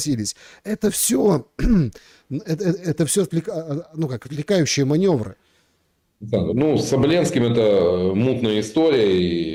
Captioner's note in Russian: откашливается